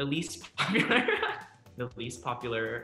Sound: laughs

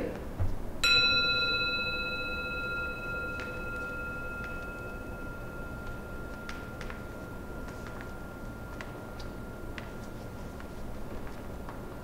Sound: gong

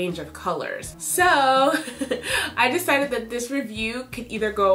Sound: chuckles

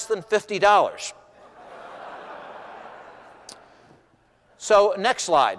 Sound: laughter

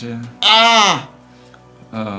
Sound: screams in agony

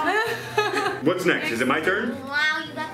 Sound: laughing

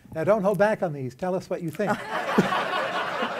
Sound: laughter

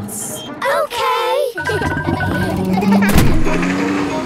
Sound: kids laughing

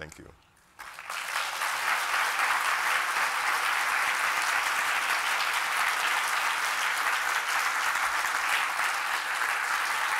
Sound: applause

